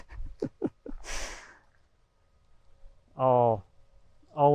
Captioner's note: chuckling